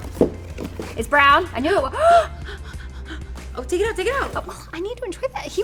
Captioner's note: gasps